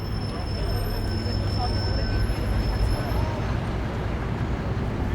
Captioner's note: brakes whistling